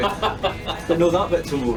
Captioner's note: laughing